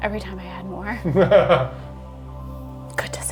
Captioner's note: laughing